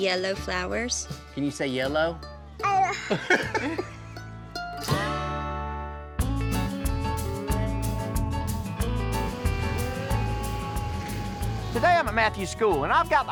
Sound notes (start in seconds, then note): 2.9 laughs